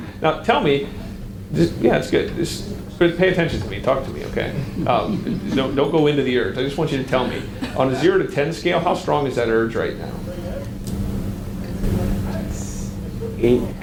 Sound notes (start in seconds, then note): 4.2 audience member chuckles